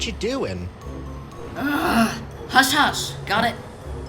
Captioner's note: groans